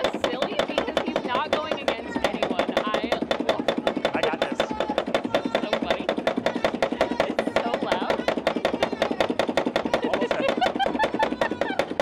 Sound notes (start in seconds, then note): 4.9 pump clanks rapidly; 10.0 laughs